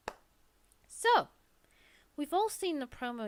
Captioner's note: claps